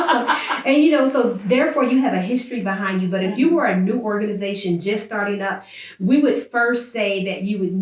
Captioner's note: laughs